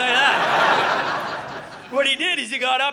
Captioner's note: audience laughing